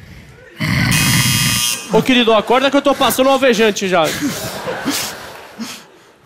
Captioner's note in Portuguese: campainha